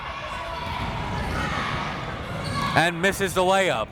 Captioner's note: crowd members shouting